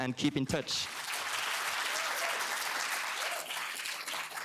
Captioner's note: applause